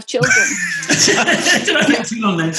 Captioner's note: laughs